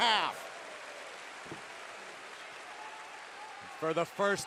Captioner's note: crowd cheering